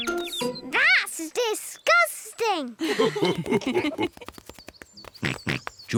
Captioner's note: mummy and daddy pig laugh; oinks